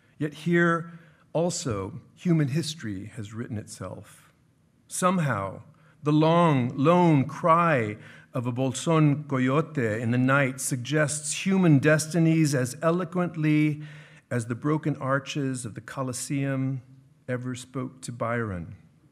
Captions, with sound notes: "Yet here also, "Human history has written itself. "Somehow the long lone cry of a bolson (speaking in foreign language) "In the night, suggests human destinies "As eloquently as the broken arches "Of the Colosseum ever spoke to Byron.